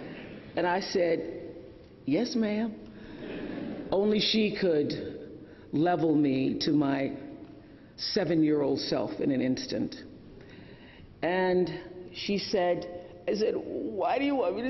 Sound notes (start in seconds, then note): 3.3 laughter